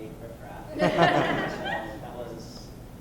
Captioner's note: laughter